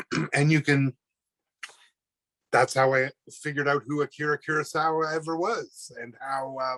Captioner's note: clears throat